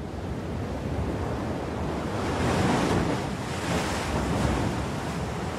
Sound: heavy waves washing shore

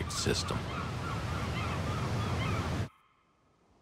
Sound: sea birds calling

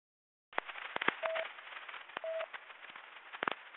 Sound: busy Tone

